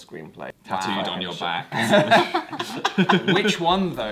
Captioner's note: laughs